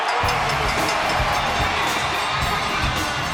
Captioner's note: bell rings; upbeat rock music